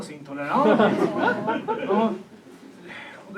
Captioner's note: audience laughs and feels sorry for him